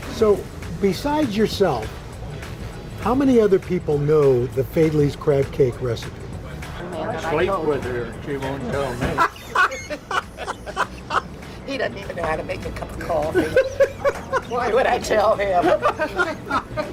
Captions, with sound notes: So Besides yourself, how many other people know the Faidley's crab cake recipe? (laughs) - He doesn't even know how to make a cup of coffee. Why would I tell him?